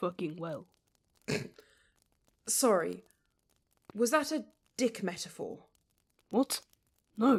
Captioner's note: Regulus almost chokes